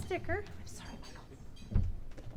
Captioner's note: whispered